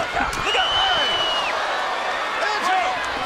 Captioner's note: crowd whistles and cheers